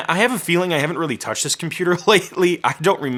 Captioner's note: laughing